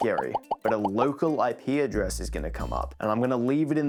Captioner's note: repeated pop sound effects